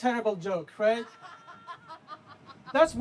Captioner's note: laughter